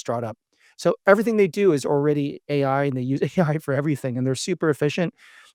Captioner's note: laughs